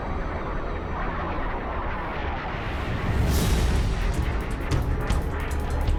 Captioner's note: explosion